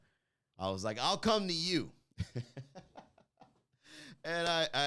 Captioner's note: laughing